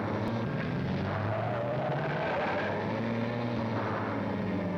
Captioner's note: tires screech